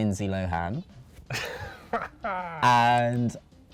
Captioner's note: laughs